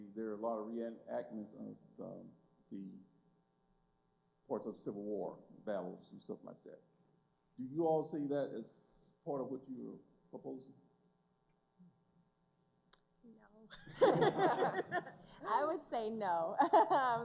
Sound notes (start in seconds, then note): 13.7 laughter; 16.6 laughs